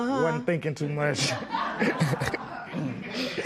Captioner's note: laughter